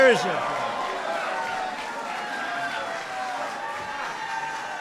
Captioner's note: applause